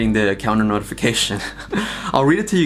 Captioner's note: laughs